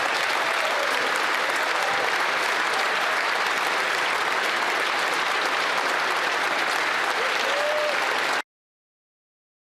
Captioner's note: applause